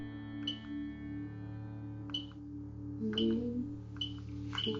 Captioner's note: dials phone